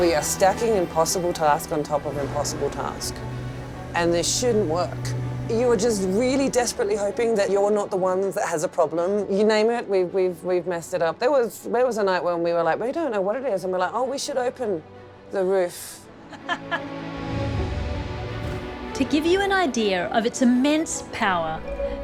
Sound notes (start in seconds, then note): 16.3 laughs